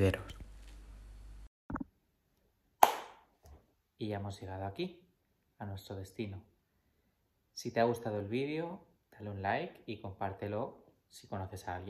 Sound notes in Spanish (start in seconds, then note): 2.8 palmada